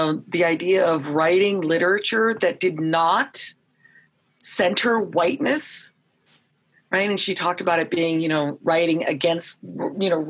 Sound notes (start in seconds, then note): none